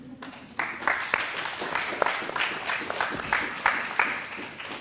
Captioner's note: applause